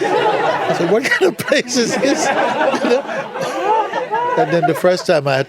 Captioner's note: laughter